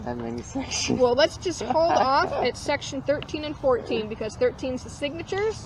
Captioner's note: chuckles